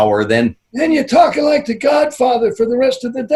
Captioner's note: in hoarse voice